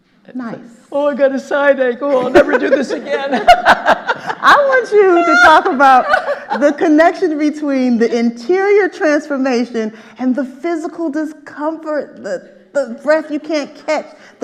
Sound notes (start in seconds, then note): 0.9 sarcastically; 2.1 all laughing; 2.1 laughing; 5.7 all laughing